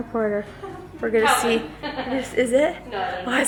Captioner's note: laughs